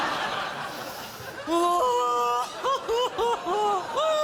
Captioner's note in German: weint